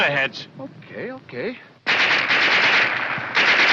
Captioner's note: machine gun firing